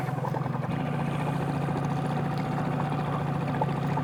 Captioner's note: boat motor hums